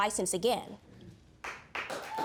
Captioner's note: applause